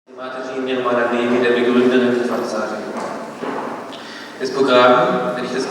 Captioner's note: talks in German